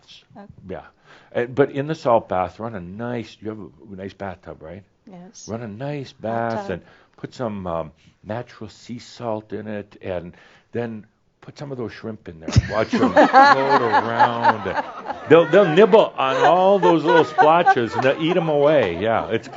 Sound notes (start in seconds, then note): 12.4 laughter